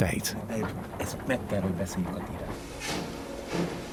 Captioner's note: speaks in foreign language